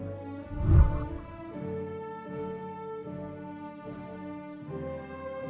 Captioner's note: whooshing sound